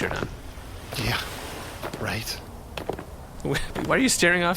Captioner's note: laughing a little